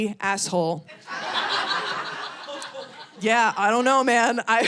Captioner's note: audience laughing